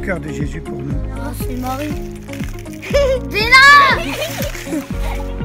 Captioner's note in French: rire